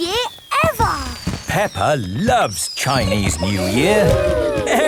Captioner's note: exclamations